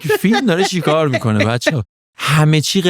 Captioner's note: laughs